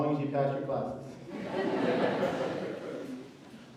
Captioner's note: laughter